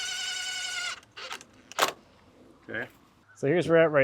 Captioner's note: drill whirring